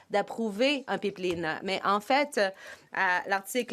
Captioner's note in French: voix de l'interprète